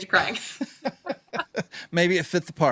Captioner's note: laughing